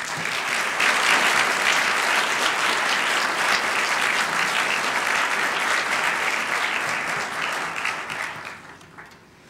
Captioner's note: applause